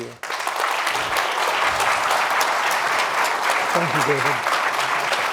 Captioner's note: applause